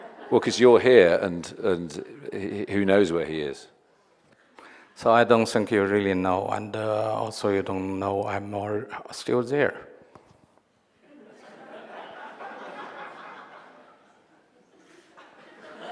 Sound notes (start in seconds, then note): 11.0 audience laughing